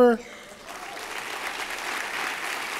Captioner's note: applause